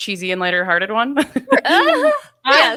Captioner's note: laughs loudly